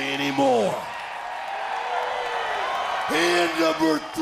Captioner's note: crowd cheering